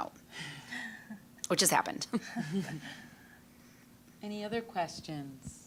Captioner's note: all chuckling